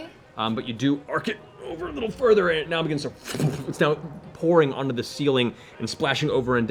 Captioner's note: splatter noise